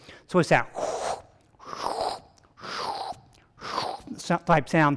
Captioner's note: vocalizing wet sucking